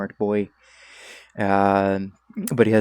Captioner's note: Blighthorn Burrower noises